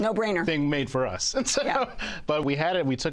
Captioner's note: laughs